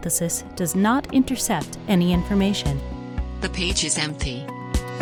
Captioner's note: text-to-speech voice: The page is empty